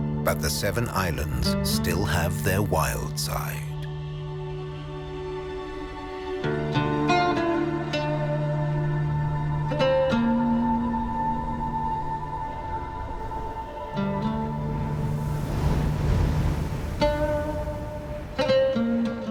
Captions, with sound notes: but the seven islands still have their wild side. (light music continues) (wind whooshing)